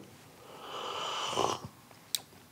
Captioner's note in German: Schlürfen